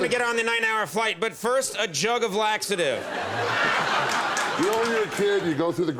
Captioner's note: audience laughs